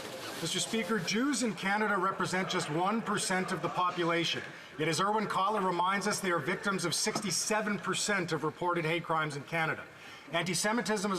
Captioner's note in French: voix de l'interprète